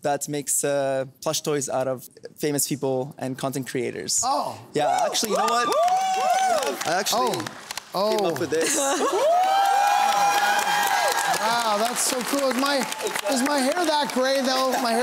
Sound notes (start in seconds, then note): 9.1 cheering and applause